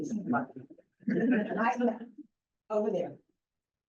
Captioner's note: laughter